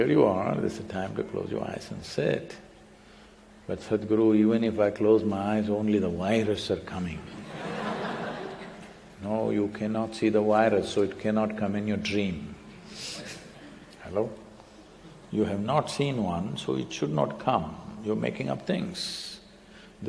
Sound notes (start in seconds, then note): 7.3 laughter